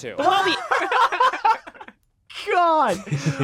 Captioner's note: group laughing